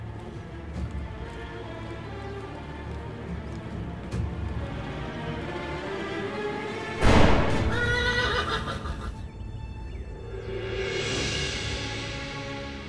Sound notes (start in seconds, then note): 7.0 gunfire; 7.6 horse neighing sound